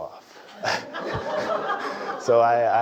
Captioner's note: laugh